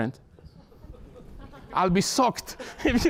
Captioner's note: laughter